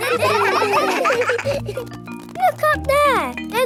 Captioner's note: children laughing